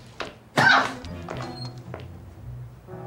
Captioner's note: Tiffany screams; gentle music